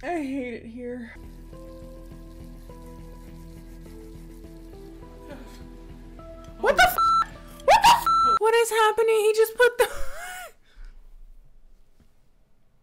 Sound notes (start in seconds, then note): 6.9 beep; 9.8 laughs